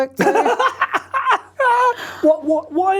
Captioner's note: both laughing